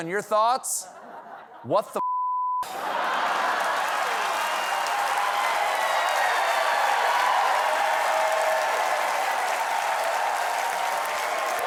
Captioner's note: cheers and applause